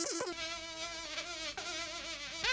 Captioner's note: fly buzzing